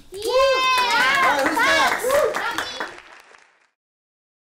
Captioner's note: cheering